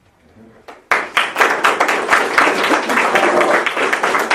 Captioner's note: potlesk